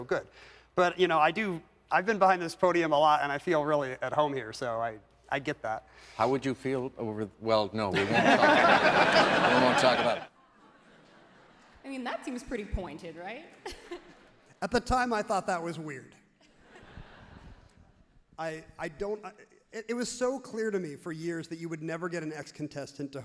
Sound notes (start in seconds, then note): 7.9 everyone laughs loudly; 13.4 everyone laughs happily; 16.2 everyone laughs happily